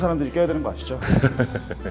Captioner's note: satisfied laughter